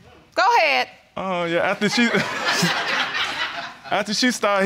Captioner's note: all laughing